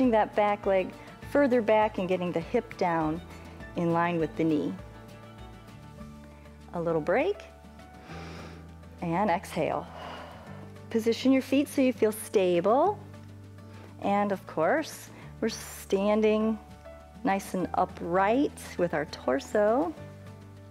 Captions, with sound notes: that back leg further back, and getting the hip down in line with the knee. A little break, and exhale. [exhales] Position your feet so you feel stable. And of course, we're standing nice and upright with our torso.